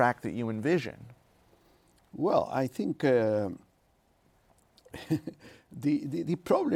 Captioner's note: laughs